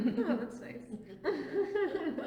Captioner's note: laughs